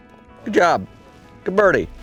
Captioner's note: voiceover